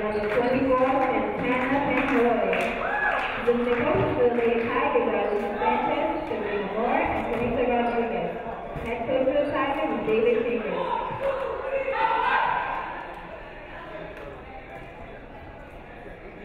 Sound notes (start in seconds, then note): 2.8 audience cheering; 12.9 crowd chattering